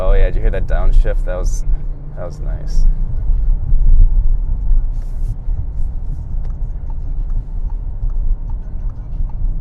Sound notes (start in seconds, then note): 7.6 ticking